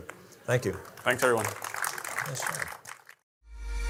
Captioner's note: audience applauding; upbeat music